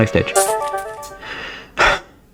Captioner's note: exhales Oxygen; inhales Oxygen